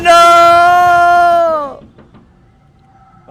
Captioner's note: someone knocking on window